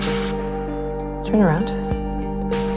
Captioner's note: voiceover